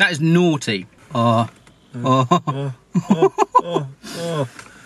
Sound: both oooo

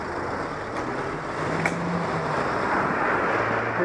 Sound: more sounds of engine being revved behind

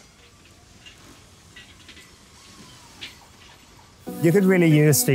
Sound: machinery whirring

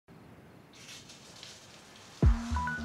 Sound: shower running

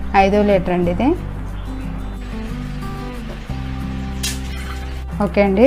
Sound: water pouring & Music

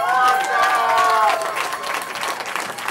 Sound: cheering

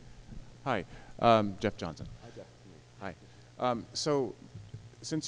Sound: voiceover

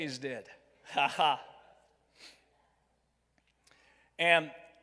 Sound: chuckles

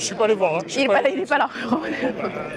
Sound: laughs

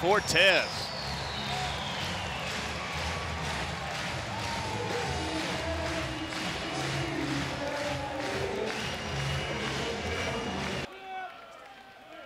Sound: crowd clapping

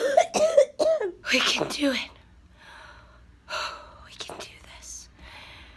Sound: deep breath

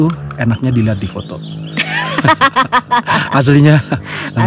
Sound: laugh

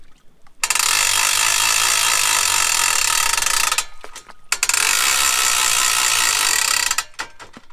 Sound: winch boat sounds

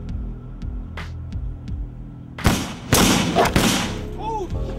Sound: gun fires

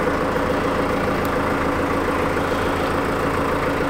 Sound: boat engine roaring

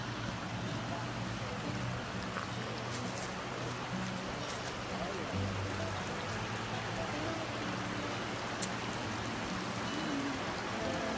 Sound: water rushing

